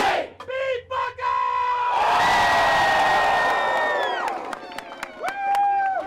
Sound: students cheer

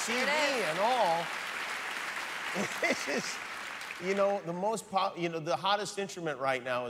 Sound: cheers and applause

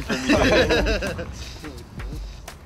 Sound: all laugh

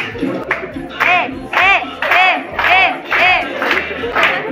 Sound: applause and shouts

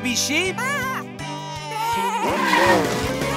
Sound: baaing

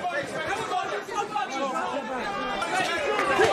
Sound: crowd talking

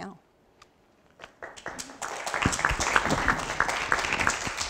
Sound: applause

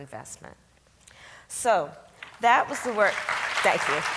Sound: audience claps

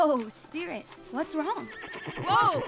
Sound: neighing

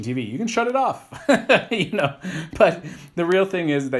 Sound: laughs

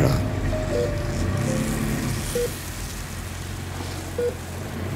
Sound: machine beeping

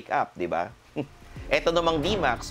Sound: chuckles

